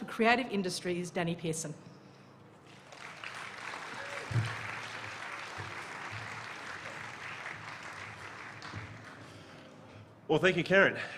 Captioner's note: applause